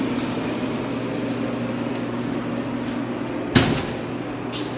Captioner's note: machine whirring